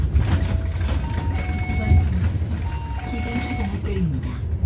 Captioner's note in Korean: 하차벨 소리